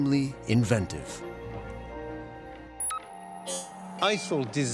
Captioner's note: computer chirps